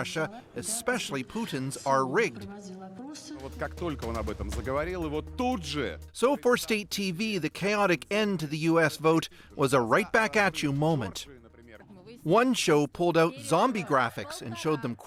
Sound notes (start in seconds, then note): 7.8 speaking foreign language